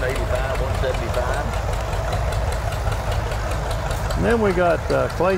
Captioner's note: revving continues